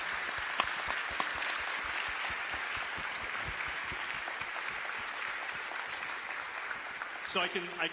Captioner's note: applause